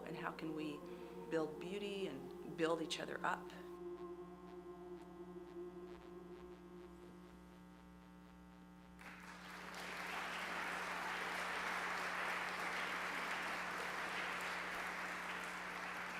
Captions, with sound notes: and how can we build beauty and build each other up? (attendees applause)